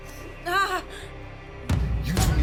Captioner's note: Emma whimpering